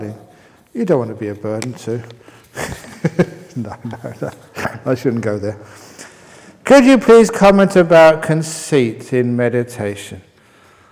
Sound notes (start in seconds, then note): 2.5 chuckles